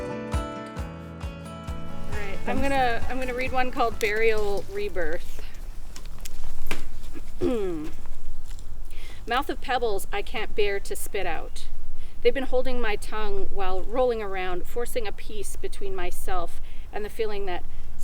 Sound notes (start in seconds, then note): 4.5 clears throat